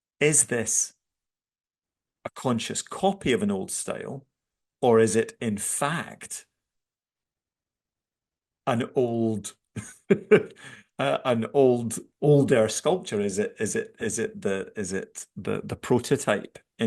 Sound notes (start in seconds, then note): 9.8 laughs